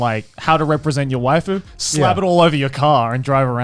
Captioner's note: all laughing